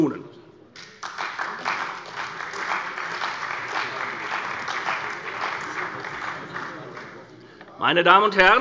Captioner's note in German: Beifall bei der CDU und dem BÜNDNIS 90/DIE GRÜNEN